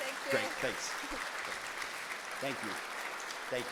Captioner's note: audience applauding